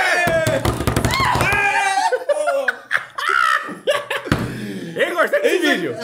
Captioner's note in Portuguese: risos